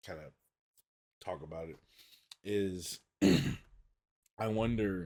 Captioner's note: clears throat